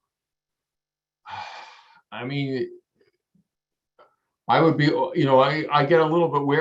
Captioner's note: sighs